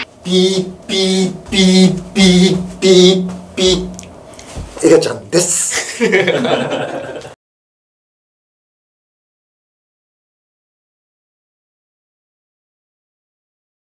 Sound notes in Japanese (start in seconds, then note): 5.7 笑い